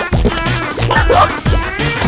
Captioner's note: laughs to myself